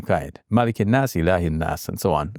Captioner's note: speaking in Arabic